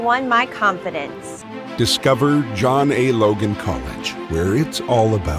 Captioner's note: voiceover